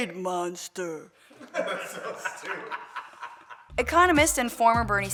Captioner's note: laughter